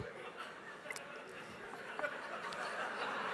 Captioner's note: laughs